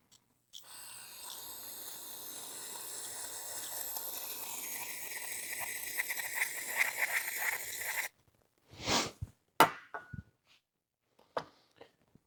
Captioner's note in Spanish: Drill Whirring